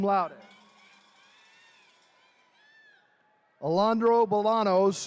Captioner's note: attendees cheering